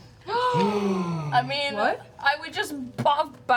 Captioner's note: gasping